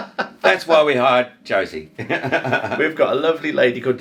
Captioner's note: laughing; laughing